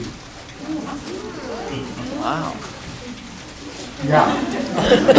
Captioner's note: crowd chattering